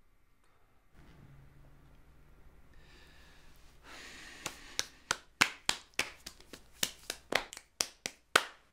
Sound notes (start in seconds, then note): 3.6 sighing; 4.4 slapping